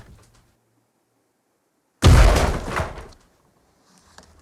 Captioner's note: banging